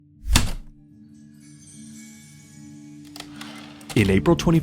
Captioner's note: heavy typewriter keystroke, light chimes, typewriter return slide